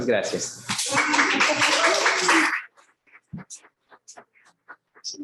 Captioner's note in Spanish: aplausos